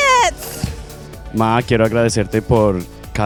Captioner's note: non-english speech